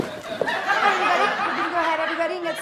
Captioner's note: audience laughs